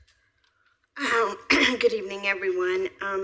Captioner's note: clears throat